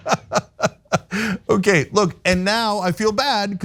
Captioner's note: laugh